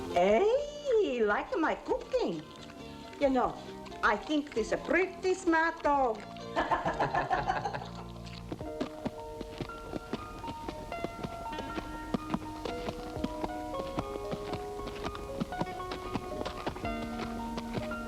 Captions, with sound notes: Hey, he like my cooking. You know, I think this a pretty smart dog. (all chuckling) (tender piano music)